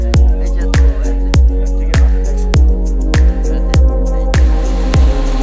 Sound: man speaking in Spanish

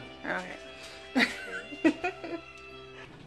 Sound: laughing

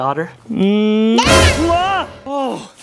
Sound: yells

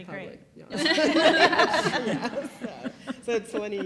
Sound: laugh

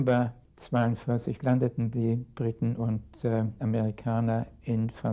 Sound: speaking in a foreign language

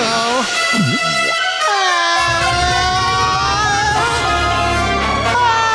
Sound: groaning; screaming

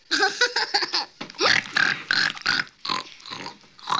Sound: giggling; oinking

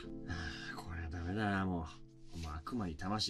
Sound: sigh

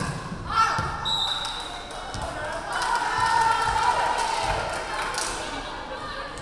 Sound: referee whistling; crowd clapping

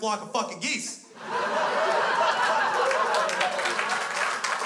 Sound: crowd laughs

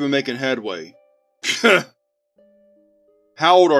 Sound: Liam audibly scoffs

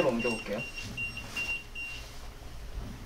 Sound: beeping

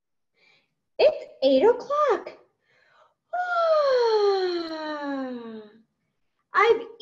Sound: yawns

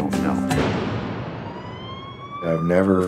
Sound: sirens

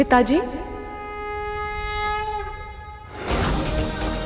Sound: conch blows

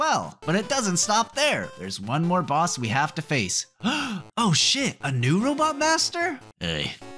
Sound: gasp

